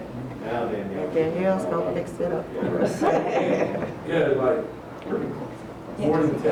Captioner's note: chuckles